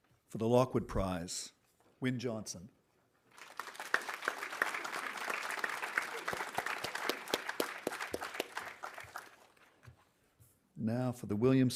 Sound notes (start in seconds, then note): 3.3 audience applauding